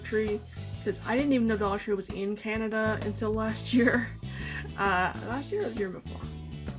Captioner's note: laughs